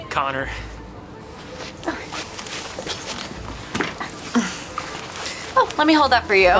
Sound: shuffling

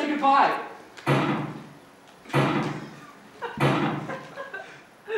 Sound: loud knock, three times

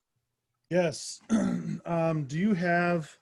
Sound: clears throat

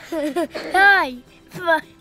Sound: giggles; playful music

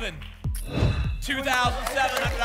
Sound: whoosh

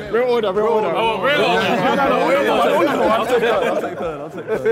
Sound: Sidemen laughing

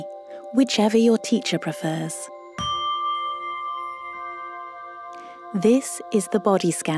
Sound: bell sound

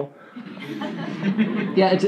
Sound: laughing

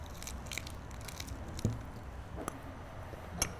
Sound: crunching

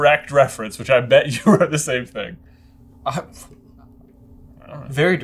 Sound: scoff

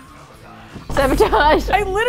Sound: dramatic thud; laughing

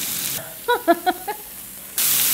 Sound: laughs

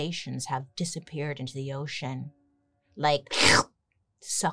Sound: slurps

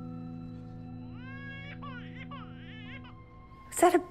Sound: baby crying

